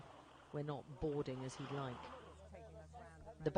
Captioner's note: none